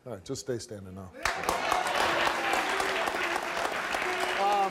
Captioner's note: audience claps